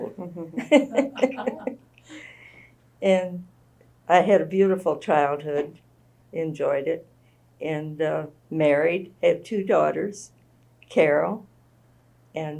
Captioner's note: laughter